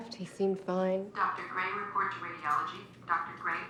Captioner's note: woman over PA